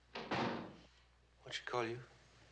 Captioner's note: kapı kapanması